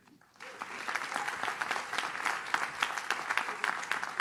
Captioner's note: audience claps